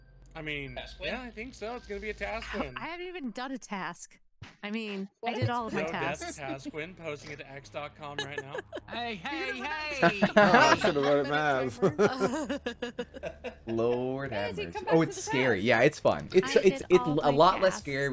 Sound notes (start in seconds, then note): 10.4 laughing